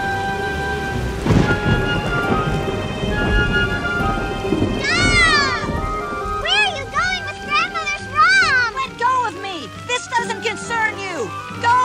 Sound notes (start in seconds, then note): 1.0 thunder crashes